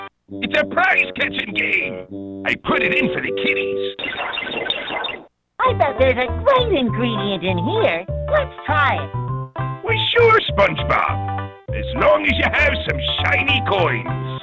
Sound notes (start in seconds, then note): 4.0 mechanic sounds